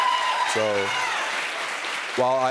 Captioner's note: cheers and applause